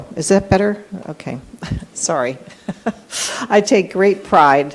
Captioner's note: laughs